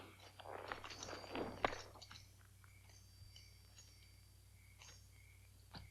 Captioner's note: spurs jingle